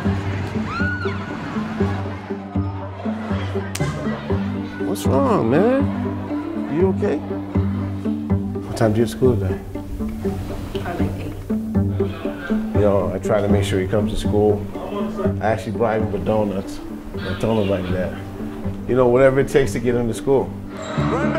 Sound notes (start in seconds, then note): 2.8 echoing student chatter; 3.7 hands slap together